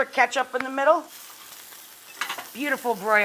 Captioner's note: pan sizzling